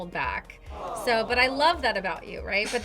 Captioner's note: crowd